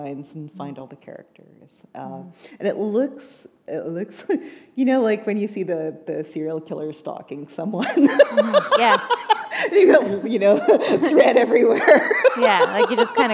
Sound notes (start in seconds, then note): 7.8 laughter